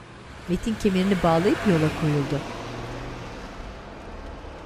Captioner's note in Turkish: Araba sesi